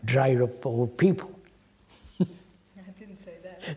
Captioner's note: laughs